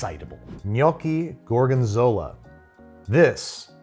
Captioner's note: air whooshes